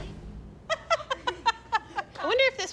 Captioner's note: laughter